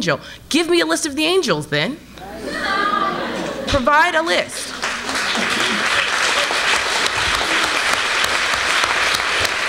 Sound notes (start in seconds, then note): 2.3 crowd cheers; 4.6 applause